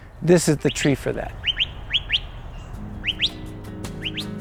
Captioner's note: bird calling